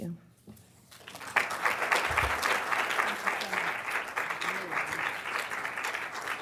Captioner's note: applause